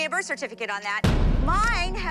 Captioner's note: boom